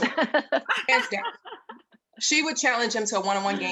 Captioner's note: panel members laughing